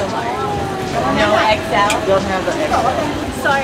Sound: none

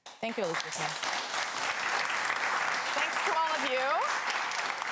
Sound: cheers and applause

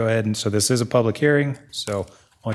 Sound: none

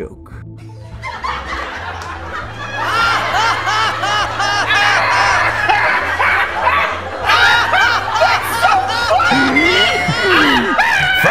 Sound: violent sarcastic laughter

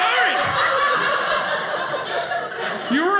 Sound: audience laughing

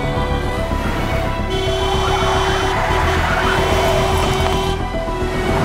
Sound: car honking

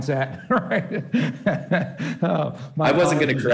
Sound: chuckling

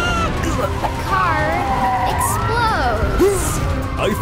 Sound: sirens wailing

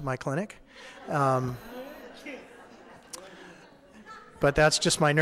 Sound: audience laughing

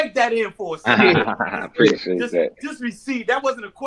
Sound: laughs

